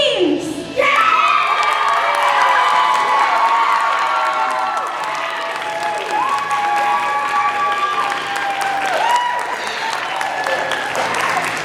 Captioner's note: cheering